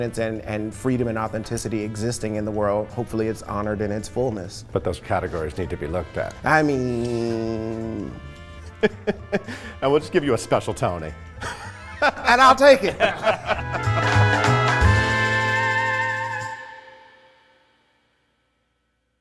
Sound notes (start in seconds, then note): 11.4 all laughing; 14.1 jaunty music